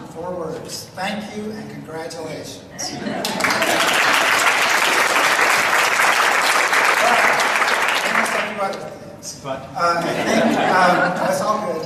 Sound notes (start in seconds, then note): 3.2 audience applauds; 10.0 audience laughs